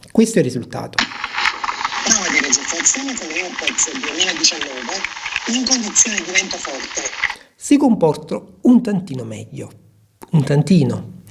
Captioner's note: applause